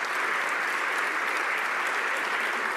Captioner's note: some Applause